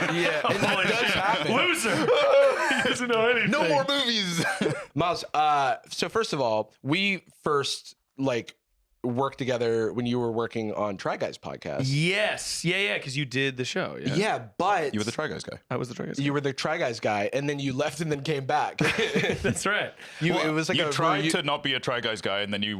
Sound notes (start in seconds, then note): 18.8 laughs